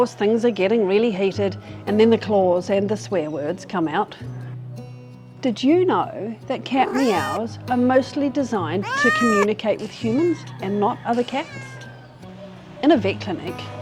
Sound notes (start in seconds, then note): 12.4 meow